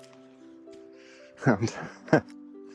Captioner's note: chuckles